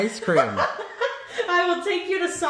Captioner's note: laughing